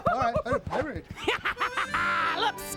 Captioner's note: laughs sinisterly